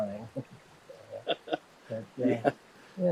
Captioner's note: both laughing